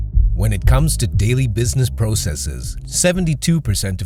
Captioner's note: voiceover